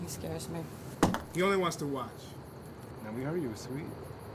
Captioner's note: hand thuds